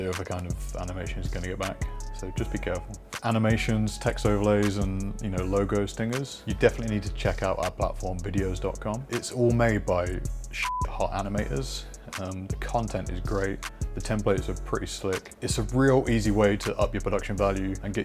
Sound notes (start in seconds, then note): 10.6 beep